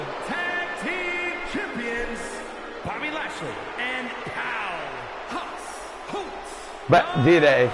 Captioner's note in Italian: Applauso